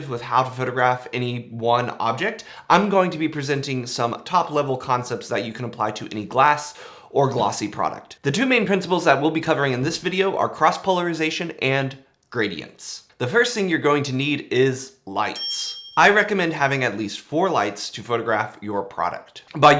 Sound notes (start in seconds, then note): 15.3 bell dings